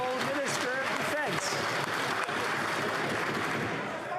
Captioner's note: some Applause